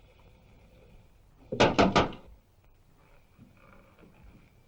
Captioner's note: knocking